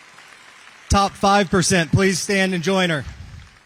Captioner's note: applause